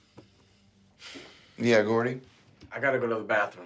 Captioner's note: sighs